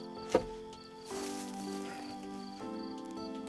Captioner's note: thumps